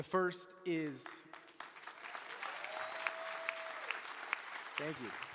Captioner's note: attendees cheering and applauding